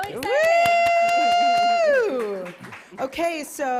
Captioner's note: applause